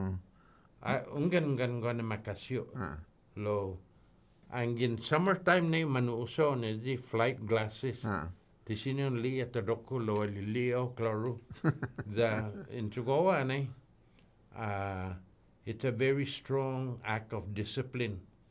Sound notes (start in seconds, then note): 11.5 laughing